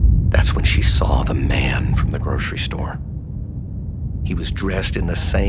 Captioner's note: none